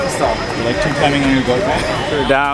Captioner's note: laughs